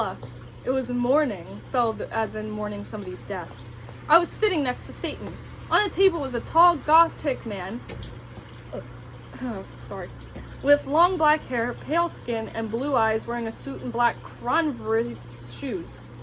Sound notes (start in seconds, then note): 8.6 burp